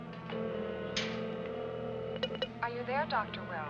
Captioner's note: telephone ringing